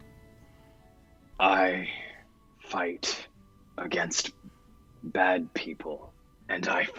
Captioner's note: low voice